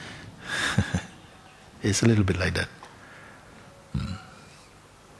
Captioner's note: chuckling